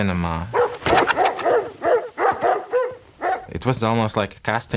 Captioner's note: dog barking